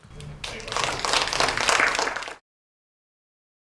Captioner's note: applause